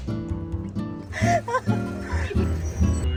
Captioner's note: laughing